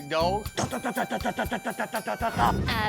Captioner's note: imitates gunfire